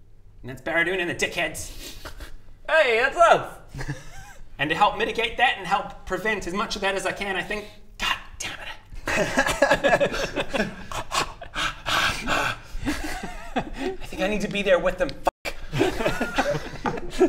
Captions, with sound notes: and that's Baradun and the Dickheads Hey! That's us! and to help mitigate that and help prevent as much of that as I can I think god dammit *remorseless laughter* ah...ahh...ahh I think I need to be there with them f*** *surprisingly unoffended snickering*